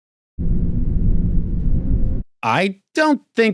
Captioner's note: low echoing